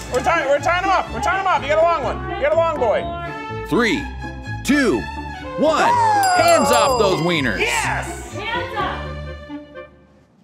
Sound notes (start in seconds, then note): 6.0 bell rings